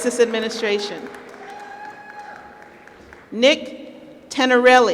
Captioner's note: applause